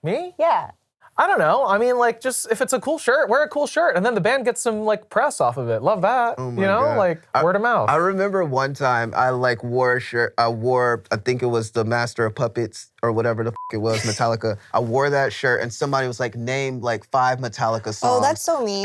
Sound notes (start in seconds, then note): 13.5 beep